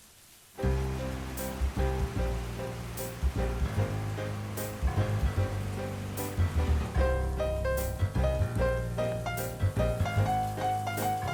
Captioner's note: transition music; city noises